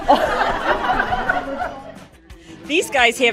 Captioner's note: crowd laughing